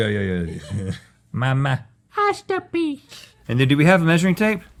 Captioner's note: baby voice